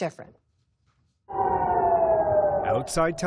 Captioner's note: sirens blaring